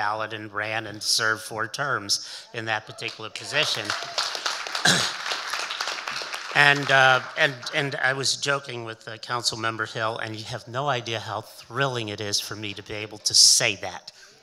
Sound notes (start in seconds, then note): 2.8 audience cheering and applauding